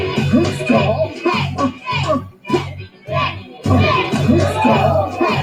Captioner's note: crowd cheering; rock music